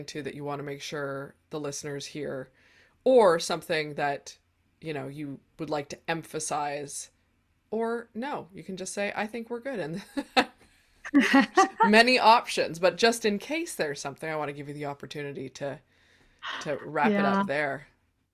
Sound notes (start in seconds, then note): 11.1 laughs